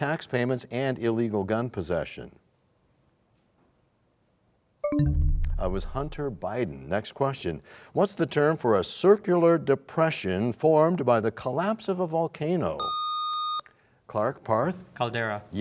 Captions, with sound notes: -Incorrect. --late tax payments and illegal gun possession? [bell chimes, time expires] It was Hunter Biden. Next question. What's the term for a circular depression formed by the collapse of a volcano?